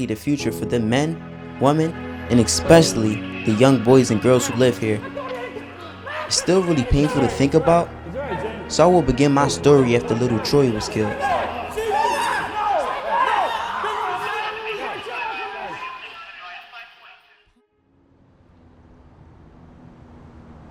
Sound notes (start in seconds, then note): 11.7 people screaming; 14.5 police radio